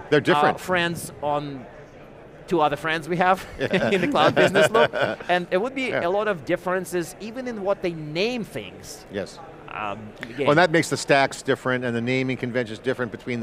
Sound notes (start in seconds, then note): 3.6 chuckling